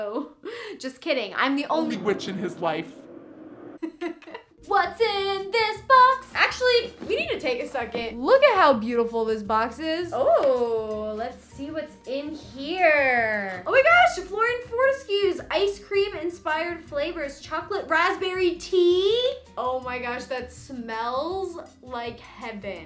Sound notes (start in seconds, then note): 3.8 laughing